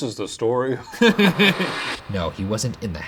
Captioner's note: laughing